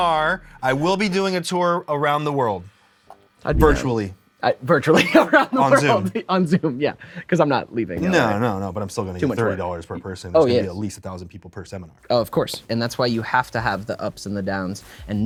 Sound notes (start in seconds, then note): 5.0 laughs